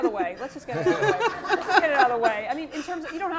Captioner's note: laugh